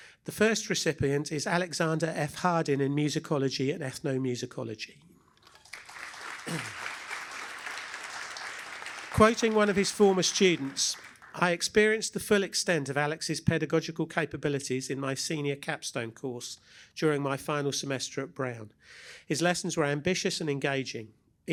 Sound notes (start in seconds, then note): 5.4 applause